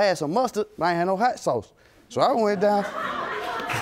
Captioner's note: audience laughing